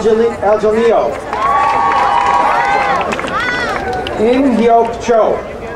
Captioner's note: crowd cheering